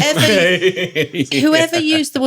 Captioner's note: laughing